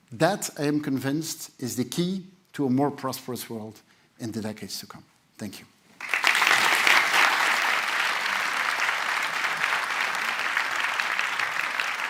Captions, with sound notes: That, I am convinced, is the key to a more prosperous world in the decades to come. Thank you. [APPLAUSE]